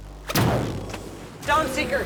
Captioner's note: gun firing